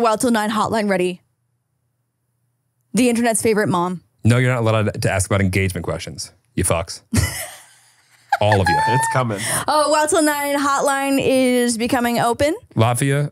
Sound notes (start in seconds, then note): 8.1 laughing